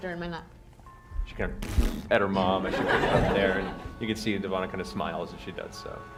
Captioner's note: raspberry noise